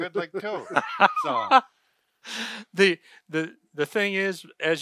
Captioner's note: they laugh